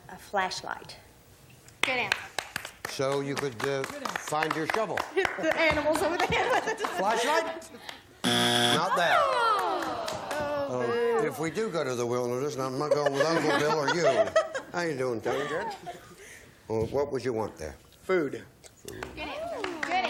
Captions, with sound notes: -I think I would want a flashlight. -Good answer. (applause) -So you could find your shovel? -And hit the animals over the head with it. -Flashlight. (buzzer) Not there. -Oh, boo. -If we do go to wilderness, I'm not going with Uncle Bill or you. How you doing, Tony? -Good. -What would you want there?